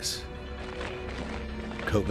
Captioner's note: troops marching